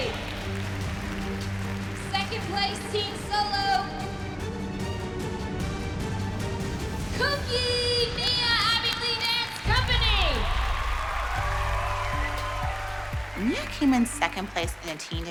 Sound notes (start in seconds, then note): 0.0 applause; 9.6 applause and cheering